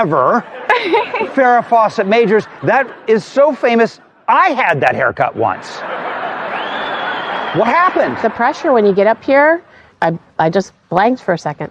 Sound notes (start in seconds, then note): 5.5 laughter